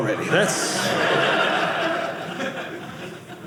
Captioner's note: audience laughing